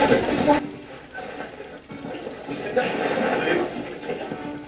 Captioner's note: radio voice; radio channel changing